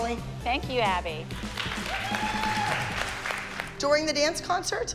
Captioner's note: cheering